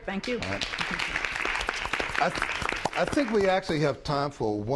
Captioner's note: applause